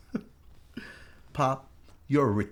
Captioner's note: laughs